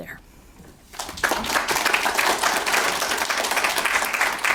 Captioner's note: crowd applauding